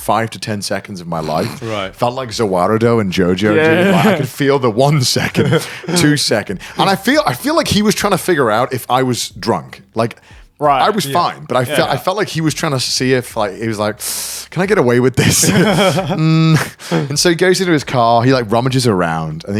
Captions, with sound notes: five to 10 seconds of my life. I felt like Za Warudo in Jojo. I could feel the one second, two seconds. And I feel like he was trying to figure out if I was drunk, I was fine, but I felt like he was trying to see if like, he was like, (inhales deeply) "Can I get away with this?" (all chuckling) And so he goes into his car, he like rummages around,